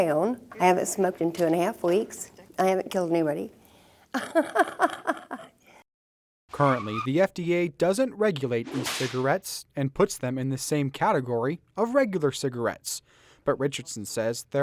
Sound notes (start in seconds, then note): 4.1 laughs